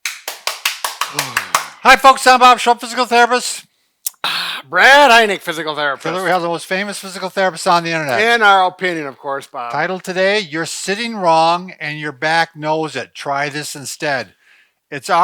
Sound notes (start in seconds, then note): 0.0 clapping; 4.0 satisfied exhalation